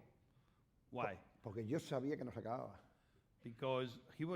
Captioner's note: speaking spanish; speaking spanish